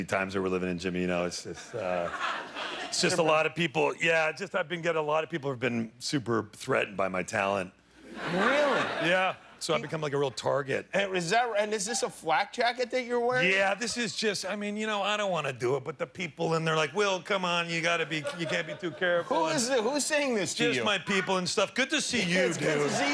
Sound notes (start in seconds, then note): 10.5 laughter